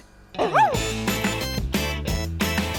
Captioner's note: affirmative bark; theme music